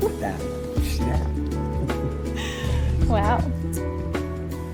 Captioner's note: laughs